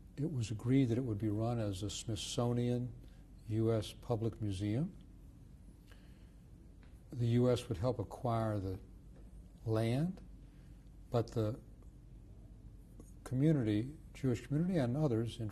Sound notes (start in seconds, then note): 4.6 pauses for 3 seconds